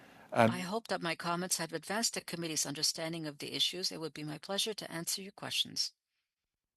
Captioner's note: speaking French